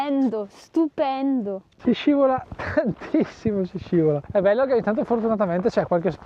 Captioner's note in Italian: risate